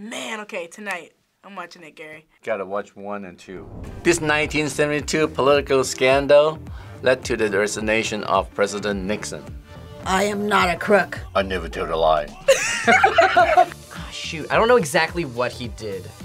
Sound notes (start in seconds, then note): 12.4 both laugh